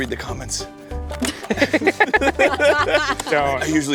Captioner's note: all laughing